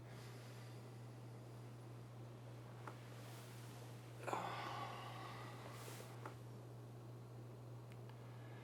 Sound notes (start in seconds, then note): 4.2 Addison softly groans